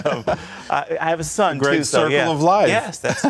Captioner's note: laughter